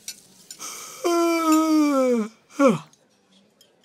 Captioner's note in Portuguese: Bocejo